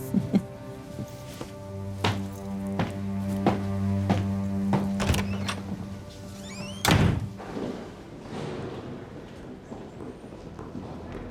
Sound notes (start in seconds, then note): 0.0 laughs; 4.8 door creaks and slams